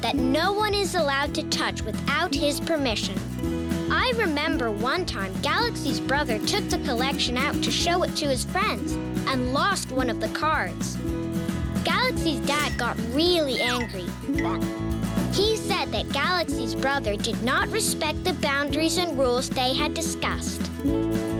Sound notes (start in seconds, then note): 13.5 beeping